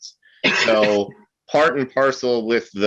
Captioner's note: coughs